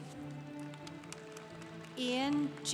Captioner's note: congregation applauding